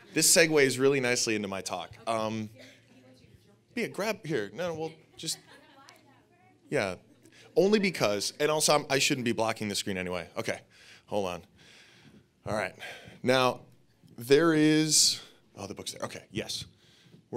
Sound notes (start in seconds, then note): 2.8 audience muttering